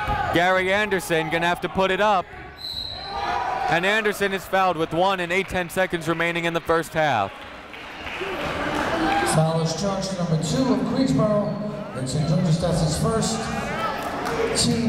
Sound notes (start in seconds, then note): 2.6 whistle; 7.6 clapping